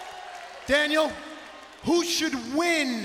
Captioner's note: crowd cheering